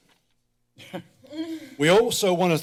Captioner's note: laughs